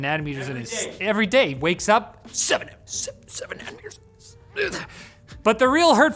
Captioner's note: grunts